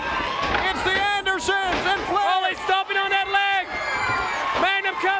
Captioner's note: crowd chatter